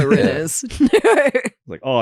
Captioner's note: laugh